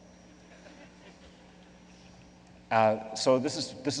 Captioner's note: laughing